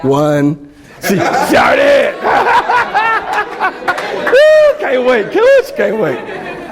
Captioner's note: laughs